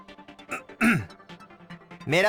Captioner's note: clears throat